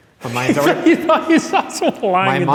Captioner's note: laughter